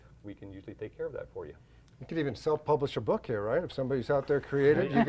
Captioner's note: laughs